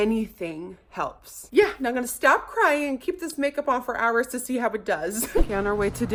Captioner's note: chuckles